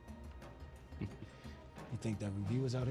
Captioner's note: chuckles